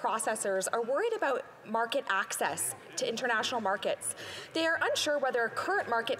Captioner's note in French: voix de l'interprète